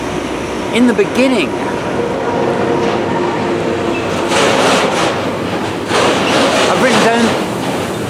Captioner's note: noisy train passes